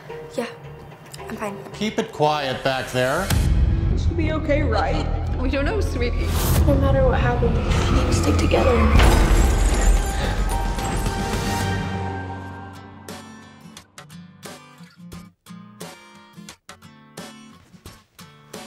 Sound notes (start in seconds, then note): 7.6 crashing; 9.9 intense music; 12.5 guitar music